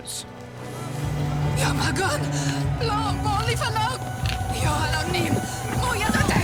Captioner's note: Biricrit shouting in foreign language